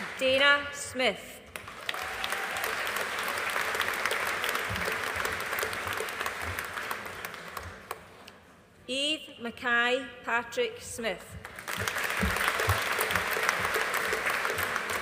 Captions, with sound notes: Dayna Smith. (AUDIENCE APPLAUDING) Eve Mckay Patrick Smith. (AUDIENCE APPLAUDING)